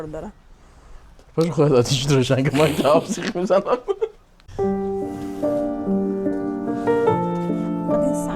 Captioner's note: laughs